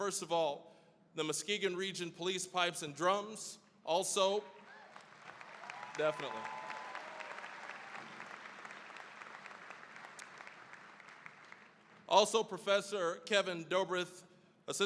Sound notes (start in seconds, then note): 4.6 applause; 7.4 cheering, applause